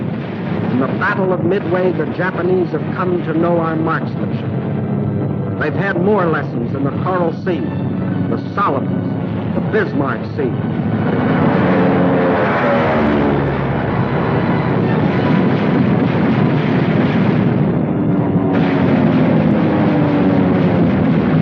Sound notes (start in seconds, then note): 11.4 engine roaring; 15.0 guns firing